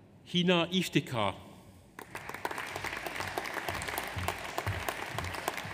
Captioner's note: audience applauds